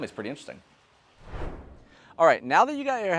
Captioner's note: air whooshing